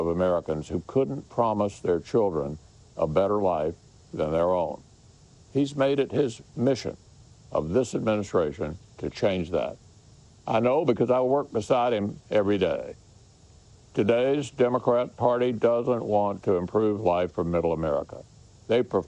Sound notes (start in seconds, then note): none